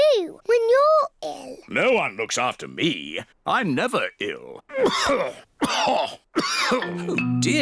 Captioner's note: coughs